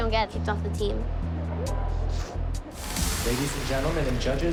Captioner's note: sniffles